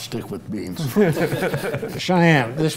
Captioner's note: panel laughing